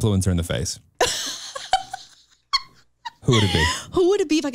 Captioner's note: chuckles